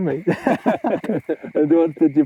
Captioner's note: both laughing